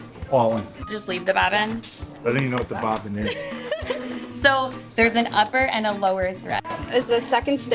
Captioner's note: laughs